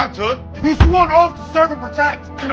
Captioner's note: hands banging on desk